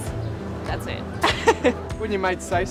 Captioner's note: chuckling